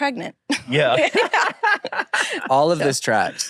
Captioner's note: laughs